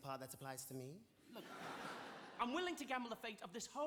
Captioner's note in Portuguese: audience laughing